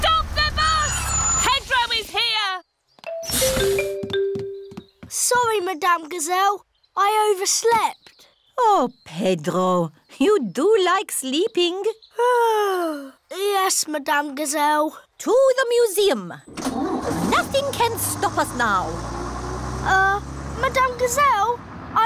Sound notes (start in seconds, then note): 12.3 yawns